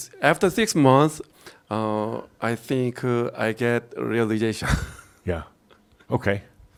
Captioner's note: he chuckles